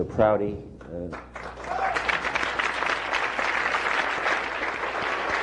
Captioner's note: applause